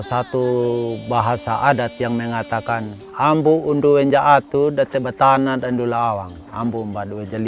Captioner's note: in Sumbanese language